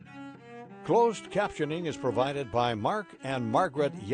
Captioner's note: voiceover